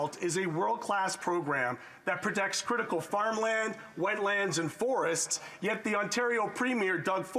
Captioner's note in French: voix de l'interprète